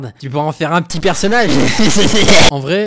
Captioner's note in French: rire démoniaque